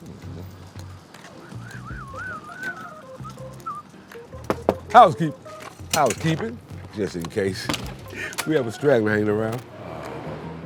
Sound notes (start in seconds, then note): 0.2 upbeat music continues; 4.4 knocks on door